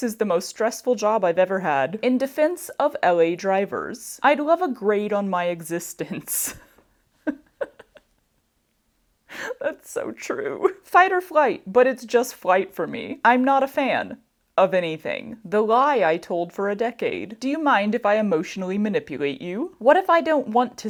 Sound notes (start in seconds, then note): 7.2 laughs